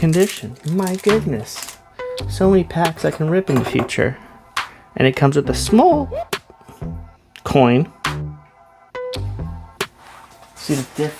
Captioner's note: voice crack